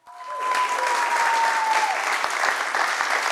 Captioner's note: audience cheering; applause